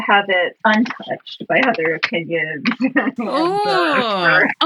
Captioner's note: laughs